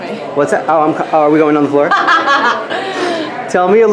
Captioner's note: laughs